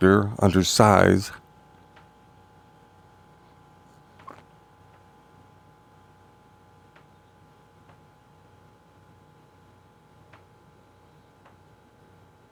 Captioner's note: silence